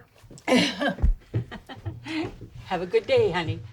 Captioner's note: Charlotte laughs